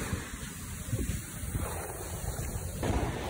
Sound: 🐾Little Jaerong footsteps🐾

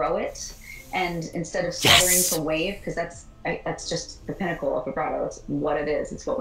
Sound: inhales

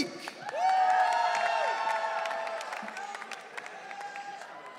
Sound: audience cheering

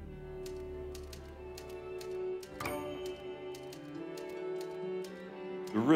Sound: typewriter

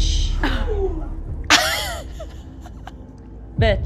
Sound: laughs like a dumbass

